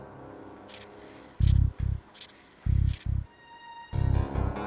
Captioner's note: polygraph scratching